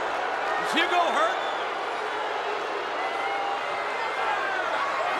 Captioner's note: crowd booing